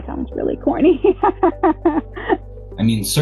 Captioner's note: chuckles